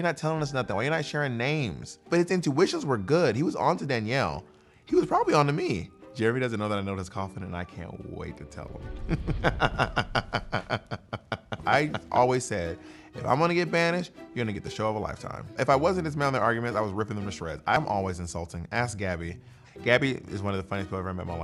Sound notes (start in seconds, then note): 9.0 laughs